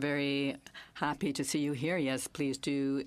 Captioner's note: speaking in French